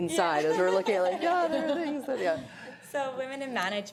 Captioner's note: laughter